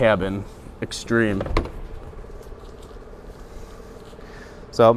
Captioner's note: soft thud